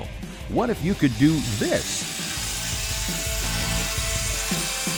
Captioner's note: voiceover